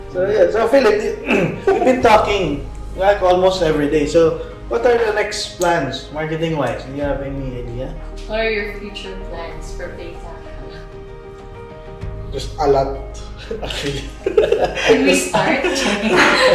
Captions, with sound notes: So Philip, we've been talking like almost every day, so what are the next plans?Marketing-wise. Do you have any idea? What are your future plans for Paytaca? There's a lot actually. [laugh] Can you start? [laugh]